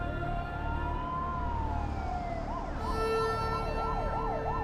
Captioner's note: ambulance wailing